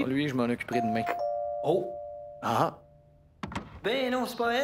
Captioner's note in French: Sonnette de porte